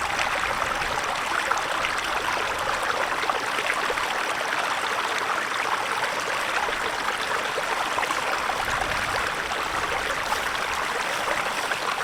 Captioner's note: water trickling in river